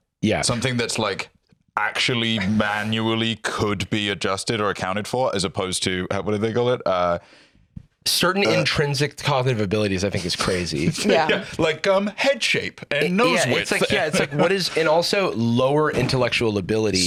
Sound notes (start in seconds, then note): 13.2 laughs